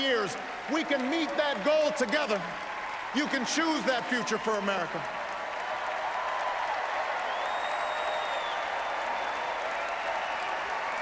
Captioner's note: applause